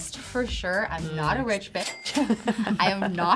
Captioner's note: cash register dinging